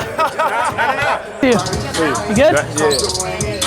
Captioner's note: both laughing